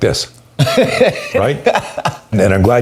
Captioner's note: laughs